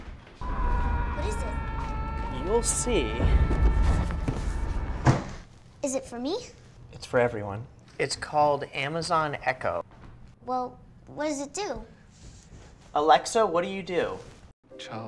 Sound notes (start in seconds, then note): 0.4 muffled screaming; 0.4 muffled screaming continues; 3.4 muffled screaming